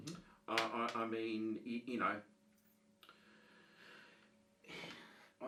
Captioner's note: sighs